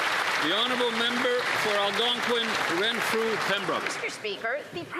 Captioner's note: applause